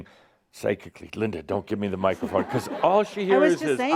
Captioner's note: laughter